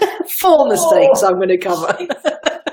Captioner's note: laughter